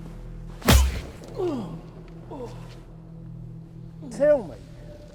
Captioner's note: slap thudding; Dan groans